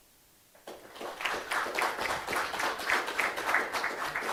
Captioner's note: crowd applause